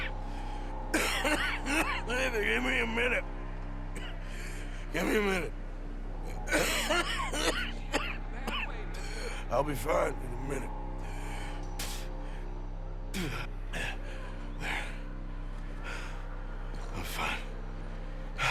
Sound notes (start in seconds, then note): 0.9 coughs; 7.9 coughs blood